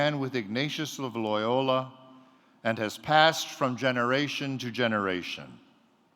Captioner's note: none